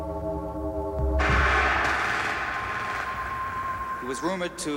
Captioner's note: gun firing